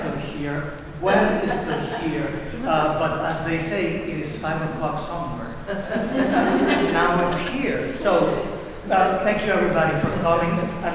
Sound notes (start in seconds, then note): 5.6 laughter